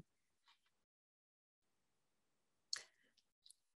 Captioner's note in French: silence